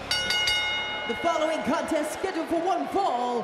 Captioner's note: bell rings